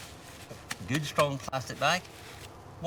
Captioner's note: plastic bag rustling